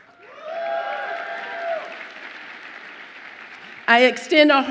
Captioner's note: audience cheers